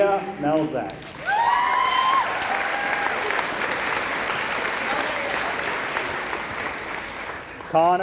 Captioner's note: applause